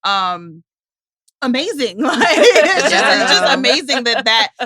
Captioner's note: laughs